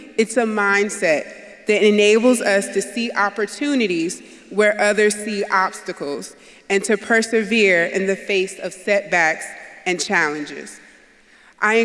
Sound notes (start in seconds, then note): none